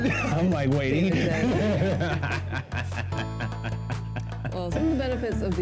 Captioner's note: both laugh